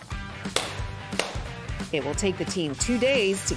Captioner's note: tapping